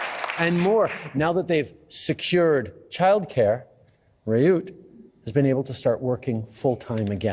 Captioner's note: applause